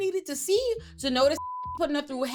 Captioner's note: beep